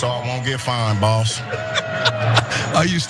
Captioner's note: laugh